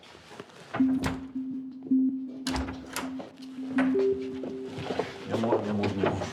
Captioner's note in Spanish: sonido al abrir la puerta